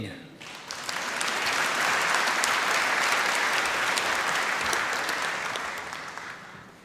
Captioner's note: applause